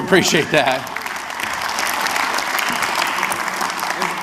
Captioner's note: audience claps